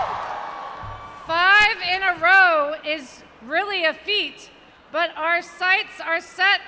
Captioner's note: cheers